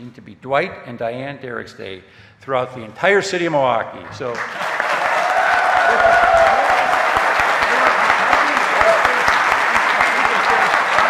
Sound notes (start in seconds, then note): 4.2 audience cheering; 6.8 applause drowns out talking